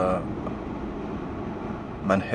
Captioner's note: wind noise